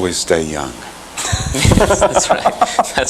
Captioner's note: laughter